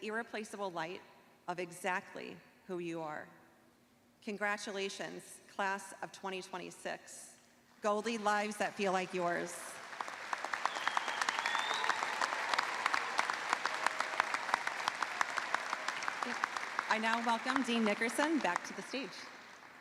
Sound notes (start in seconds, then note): 6.1 applause